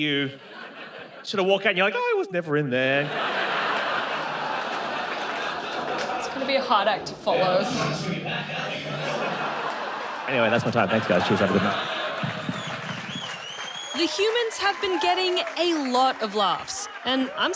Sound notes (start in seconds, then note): 3.0 laughter; 8.4 laughter